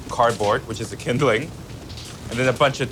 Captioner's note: fire crackling